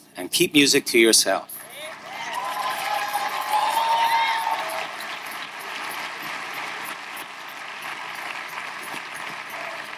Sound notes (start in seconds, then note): 1.6 audience cheering; 1.7 audience applauding